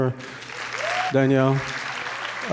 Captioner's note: audience claps